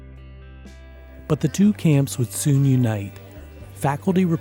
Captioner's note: voiceover